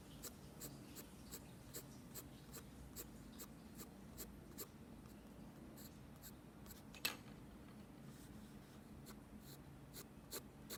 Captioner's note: pencil sketching sounds